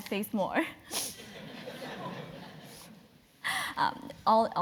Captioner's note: laugh